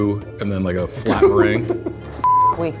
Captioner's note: laughs